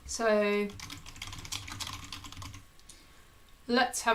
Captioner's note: keyboard clicking